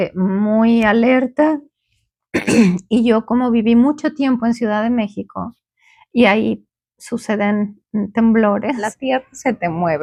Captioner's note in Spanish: carraspeo